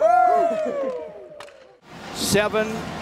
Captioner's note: all cheer